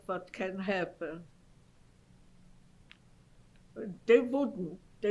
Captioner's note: pauses for 3 seconds